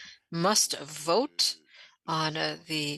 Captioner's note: speaking French